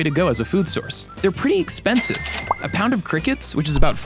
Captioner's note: cash register ringing